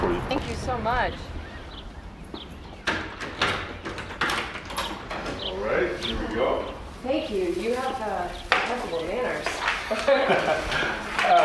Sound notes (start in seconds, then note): 2.3 door rattling; 9.8 Claire and Bobby laughing